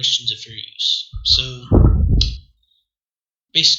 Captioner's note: wind